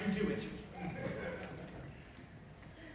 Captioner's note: laughter